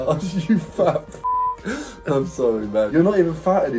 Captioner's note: beep